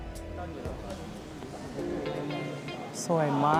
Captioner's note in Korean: 이어서 등장하는 발걸음